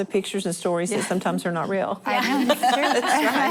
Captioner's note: laughing